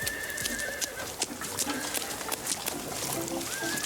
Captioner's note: horse neighing; lively music